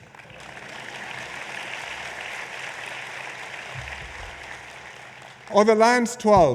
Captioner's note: applause